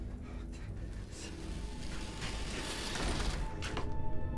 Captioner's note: scraping